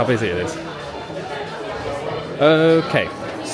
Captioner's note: loud bustling chatter